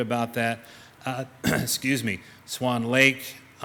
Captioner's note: clears throat